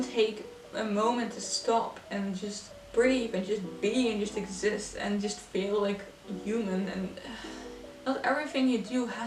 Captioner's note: sighs